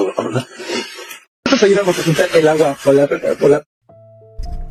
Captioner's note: spanish dialogue continues